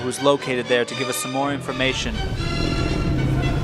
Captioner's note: car tears away